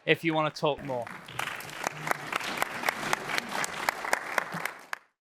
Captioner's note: applause